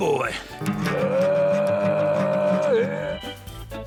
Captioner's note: vocalises gruffly